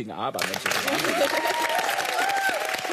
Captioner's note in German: Applaus